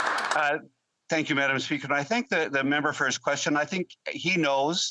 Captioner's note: applause